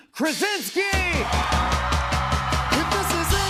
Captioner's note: cheers and applause